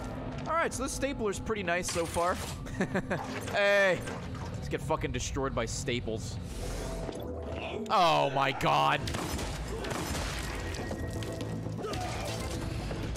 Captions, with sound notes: All right, so this stapler is pretty nice so far. (laughs) Hey. Just get fucking destroyed by staples. Oh my God.